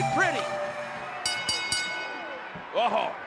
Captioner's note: bell rings